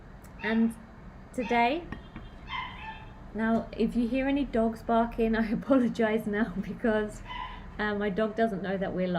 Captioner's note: woof